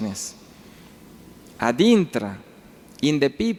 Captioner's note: speaking foreign language